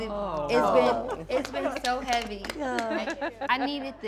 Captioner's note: clapping